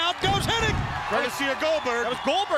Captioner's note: crowd cheering